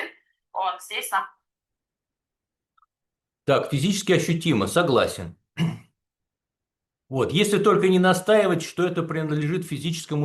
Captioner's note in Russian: откашливается